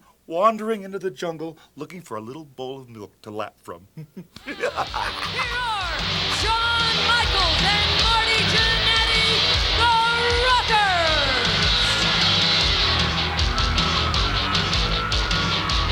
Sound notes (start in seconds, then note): 3.9 chuckling; 11.6 upbeat music